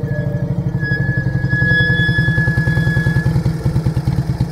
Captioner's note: brakes squeaking